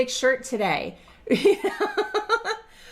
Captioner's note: laughing